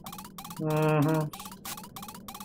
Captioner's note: skeptically